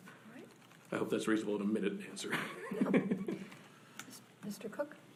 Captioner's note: laughs